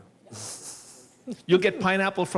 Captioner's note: laughs